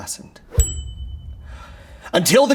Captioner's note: bell dinging